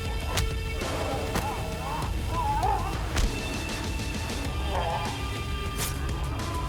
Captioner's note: blows thudding; creature grunting